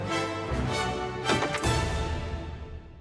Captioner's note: door opens